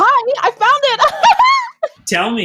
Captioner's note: laughing